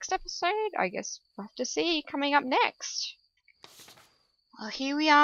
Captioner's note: paper flip